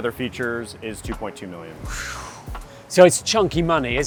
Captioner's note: whistles